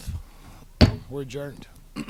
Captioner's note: gavel bang